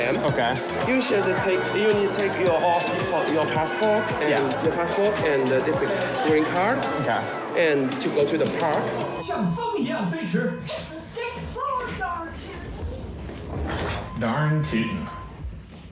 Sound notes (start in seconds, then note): 9.0 Woody speaking Chinese